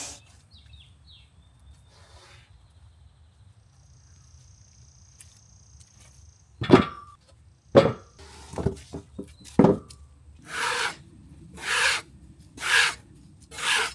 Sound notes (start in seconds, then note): 0.0 birds chirping; 6.6 wood thuds; 10.8 scraper scraping